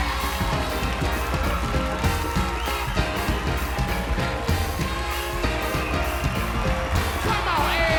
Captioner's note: applause